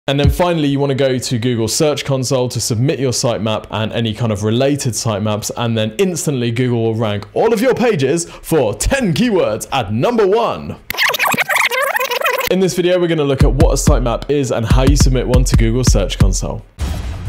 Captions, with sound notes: - And then finally you wanna go to Google Search Console to submit your Sitemap and any kind of related Sitemaps and then instantly Google will rank all of your pages for 10 keywords at number one. (rewinding sound-effect) In this video we're gonna look at what a Sitemap is and how you submit one to Google Search Console.